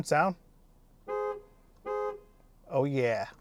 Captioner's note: horn blowing